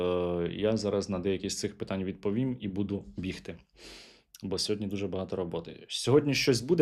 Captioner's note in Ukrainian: сопіння